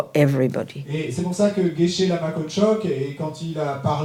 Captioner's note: speaking in French